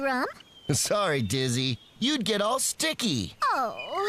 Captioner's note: laughs